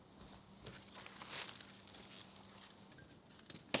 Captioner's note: rustling